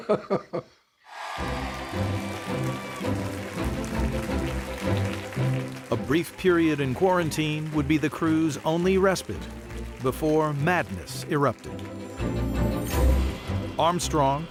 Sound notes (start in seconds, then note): 0.0 chuckling; 1.1 cheering